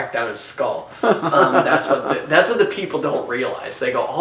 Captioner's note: laughing